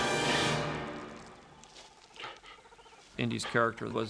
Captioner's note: birds chittering